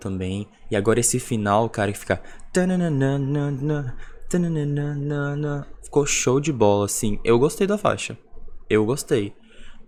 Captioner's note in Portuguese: fazendo o barulho com a boca